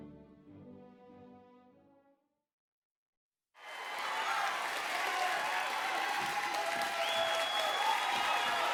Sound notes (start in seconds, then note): 3.6 audience applauding